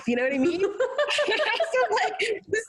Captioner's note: laughing